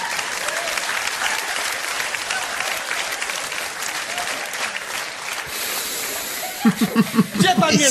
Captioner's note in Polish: Aplauz